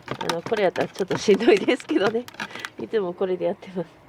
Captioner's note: laughs